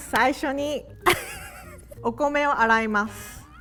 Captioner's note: speaking in Japanese; laughing; speaking in Japanese